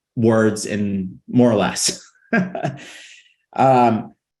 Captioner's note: laughing